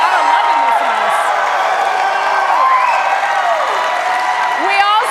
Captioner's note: cheers and applause